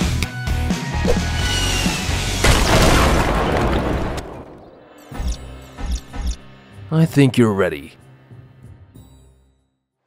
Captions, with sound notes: (explosion bangs) - I think you're ready.